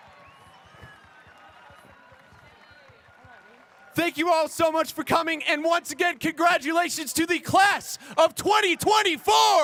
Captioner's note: cheers and applause